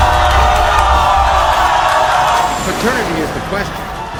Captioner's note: audience cheering